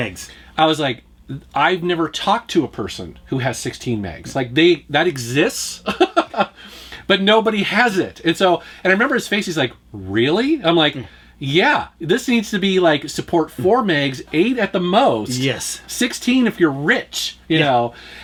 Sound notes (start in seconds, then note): 5.8 laughs